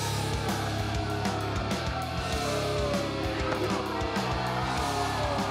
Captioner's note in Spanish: abucheos